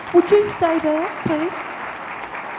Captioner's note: audience laughs